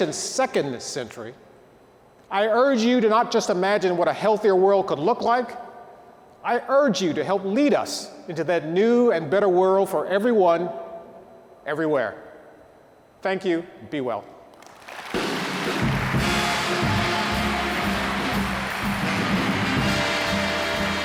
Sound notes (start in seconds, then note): 14.5 audience applauding; 15.2 soft music